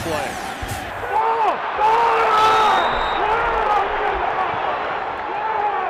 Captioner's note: cheering